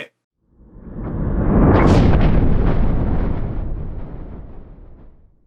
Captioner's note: thunder rumbling